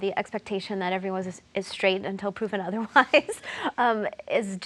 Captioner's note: laughs